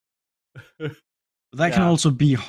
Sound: laughs

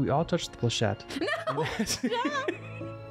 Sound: both laugh; screams

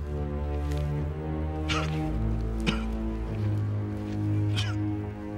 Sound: coughing

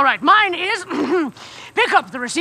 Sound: clearing throat

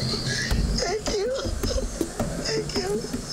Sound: crying

